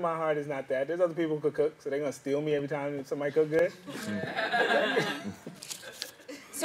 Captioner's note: laughing